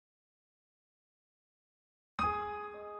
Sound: silence

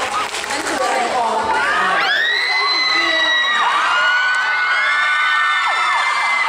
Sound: scream

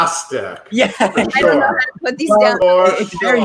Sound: laughs

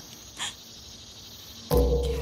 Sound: click; gasps

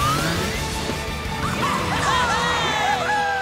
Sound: cheering

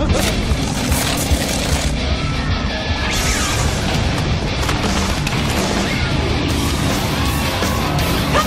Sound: screams

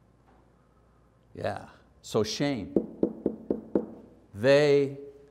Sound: knocking

